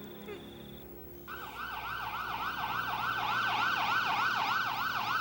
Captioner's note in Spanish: Sirenes tocando